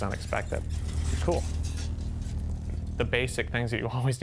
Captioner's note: squeaking